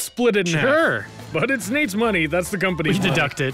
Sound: laughs

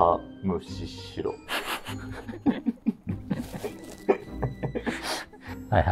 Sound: laughing

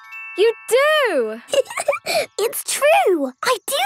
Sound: giggling

